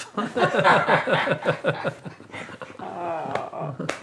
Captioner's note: laughter